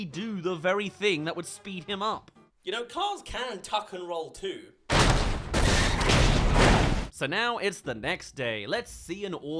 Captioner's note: crash